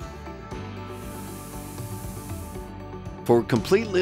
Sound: sprinkler hissing

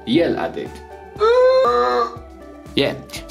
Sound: yells

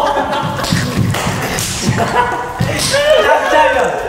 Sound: thump thump

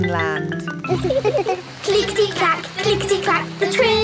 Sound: laughing

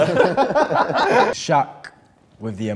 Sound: laughing

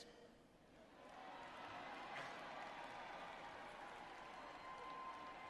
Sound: audience cheers and applauds

